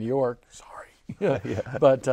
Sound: whispers

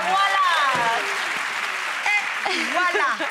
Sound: audience applauds

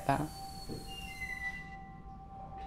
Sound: door creaks

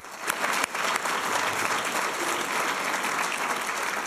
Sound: applause

